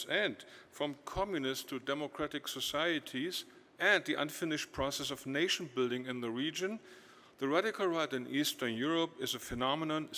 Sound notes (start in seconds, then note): none